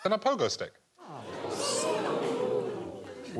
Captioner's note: audience "ooh"ing